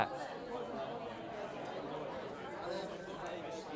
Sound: chatter

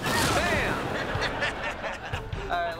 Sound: laughing

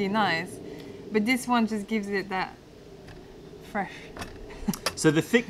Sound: laughter

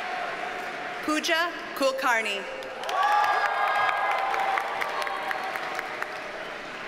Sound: audience cheers and applauds

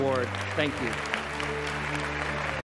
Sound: applause

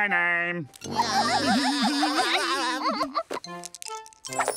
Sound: everyone laughing

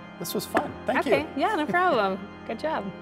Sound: chuckling

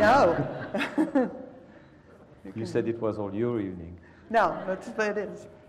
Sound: laugh

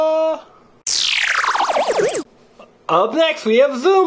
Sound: tape rewind

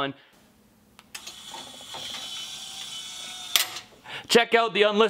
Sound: mechanical sound

